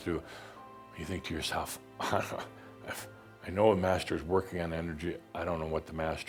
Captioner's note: chuckling